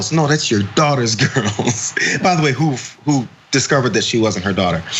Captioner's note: laugh